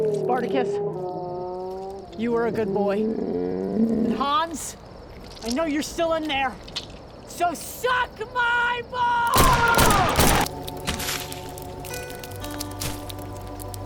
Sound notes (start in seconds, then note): 9.3 gunshots banging